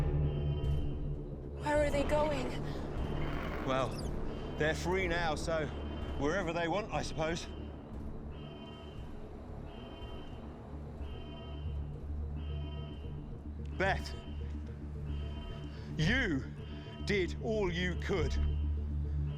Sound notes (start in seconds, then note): 8.3 alarm blaring; 9.5 dramatic music; 10.8 alarm blaring; 12.1 dramatic music